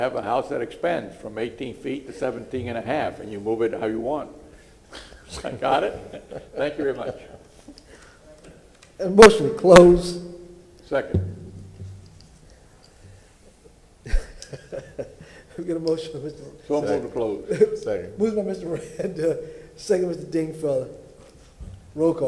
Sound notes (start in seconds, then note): 12.3 laughter